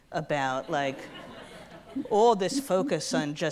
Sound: audience laughs

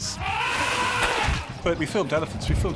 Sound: elephant trumpets

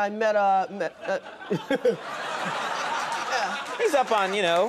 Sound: audience laughing

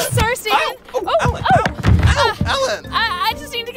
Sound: crashes into bench

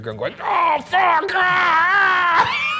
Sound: laughing

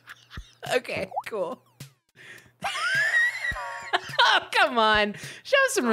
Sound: laughing

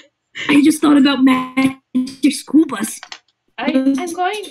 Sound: glitching

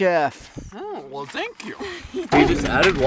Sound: in French accent

